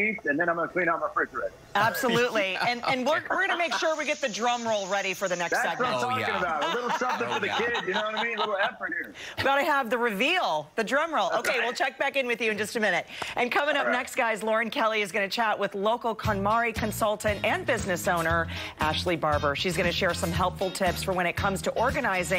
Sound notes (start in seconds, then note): 6.1 laughter